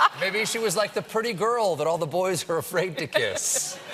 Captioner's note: laughter